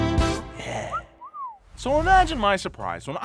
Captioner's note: person whistling